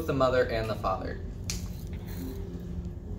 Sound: sAsSy sNaP

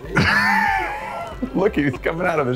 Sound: laughing

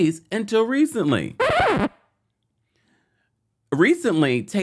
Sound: record scratching

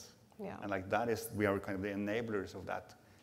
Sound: none

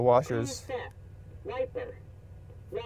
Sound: car voice

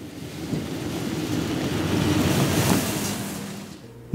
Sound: car revs

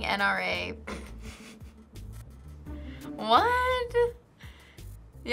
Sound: snickers

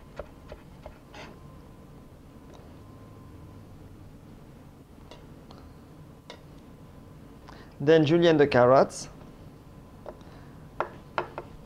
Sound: slicing sounds

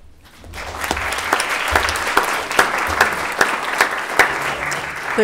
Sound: attendees applauding

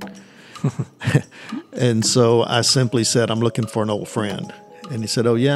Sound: chuckle

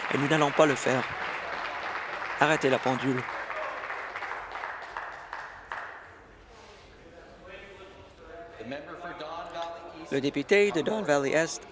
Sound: applause

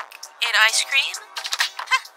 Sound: lock sound effect

